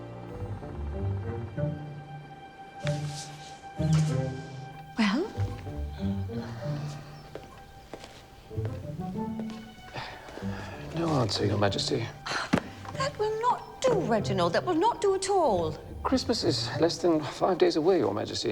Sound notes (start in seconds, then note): 0.1 light music; 6.7 Reginald sighs; 12.2 sighs